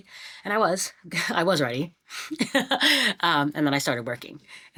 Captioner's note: laughs